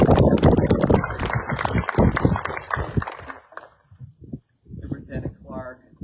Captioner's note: applause